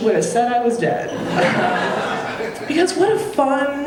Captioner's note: audience laughing